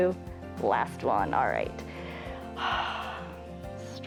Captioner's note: exhales